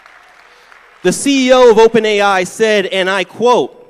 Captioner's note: applause